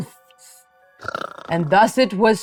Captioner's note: snoring